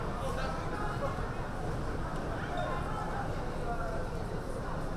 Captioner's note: crowd talking